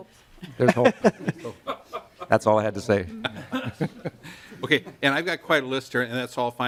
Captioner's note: laughing